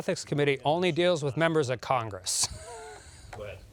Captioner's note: laughs